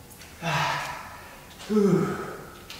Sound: breath out

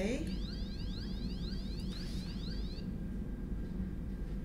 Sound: electric alarm sound

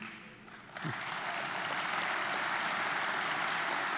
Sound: audience applauding

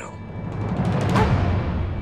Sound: dog barks

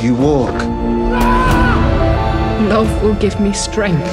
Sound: screaming

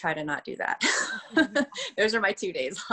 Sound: laughs

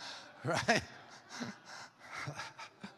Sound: congregation laughs; laughs

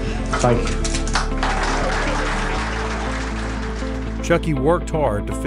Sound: crowd applauding

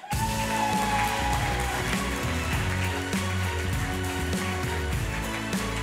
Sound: applause and music

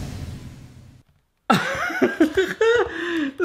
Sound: laughs

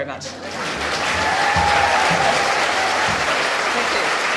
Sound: applause

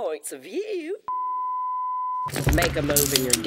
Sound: high-pitched tone

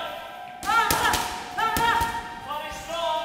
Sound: screaming

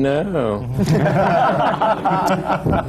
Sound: laughter

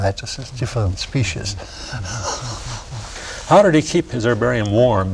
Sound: chuckles

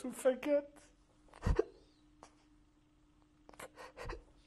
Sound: crying

